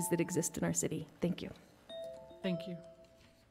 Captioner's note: timer chiming